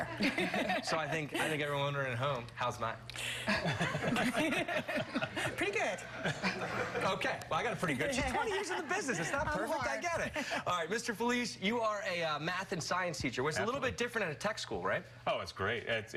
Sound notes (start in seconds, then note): 7.9 laughter